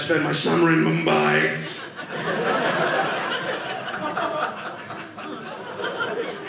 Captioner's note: audience laughing